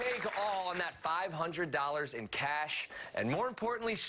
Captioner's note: applause